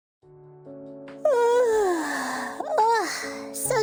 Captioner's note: yawns